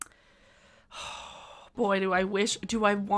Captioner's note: exhaling